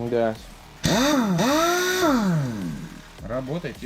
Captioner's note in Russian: звук работающего гайковерта